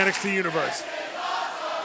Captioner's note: fans chanting